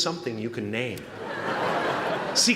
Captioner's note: laughter